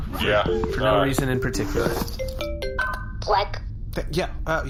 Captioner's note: phone rings